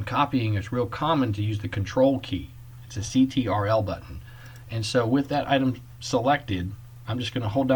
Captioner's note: click